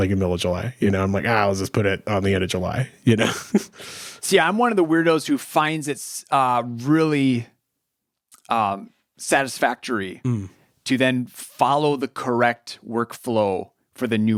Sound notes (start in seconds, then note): 3.1 chuckles